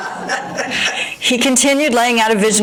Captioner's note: audience groans & laughter